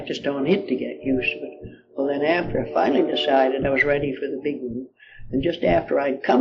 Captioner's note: train passing in the distance